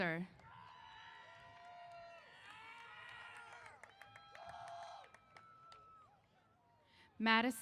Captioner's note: applause & Cheers